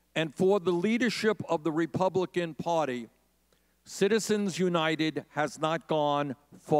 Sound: none

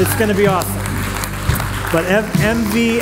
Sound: applause

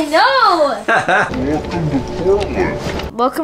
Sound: laughter

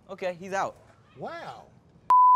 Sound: beep

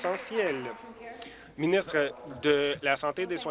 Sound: applause

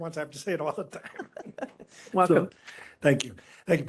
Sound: laughing

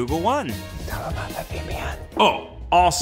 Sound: whispering

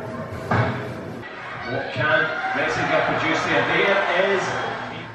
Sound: TV announcer speaking

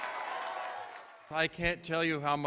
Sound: cheers

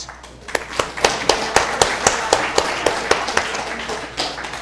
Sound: applause

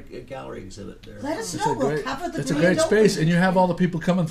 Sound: voiceover

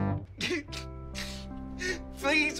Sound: TROY crying

